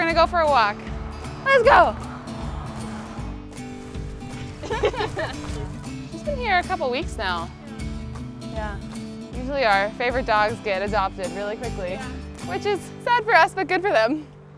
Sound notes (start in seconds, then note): 4.3 both laugh